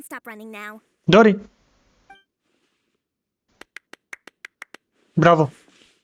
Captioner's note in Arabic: تصفيق